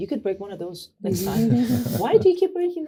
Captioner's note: laughter